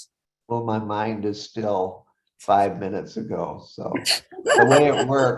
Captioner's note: laughs